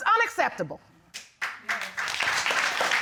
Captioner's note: applause